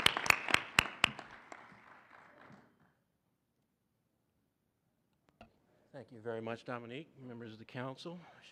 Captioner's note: applause